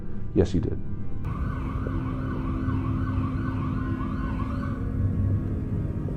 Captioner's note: police sirens blaring